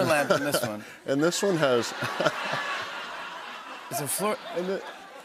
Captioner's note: laughter